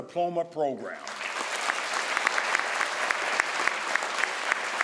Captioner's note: crowd applauds